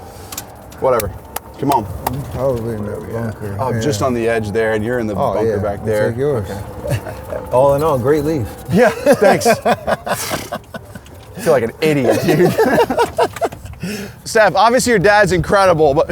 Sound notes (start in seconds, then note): 8.4 chuckles; 9.5 laughs; 13.7 laughs